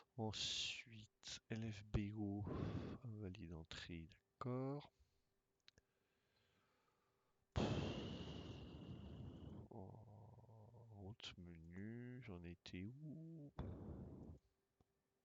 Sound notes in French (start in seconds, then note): 7.6 soupir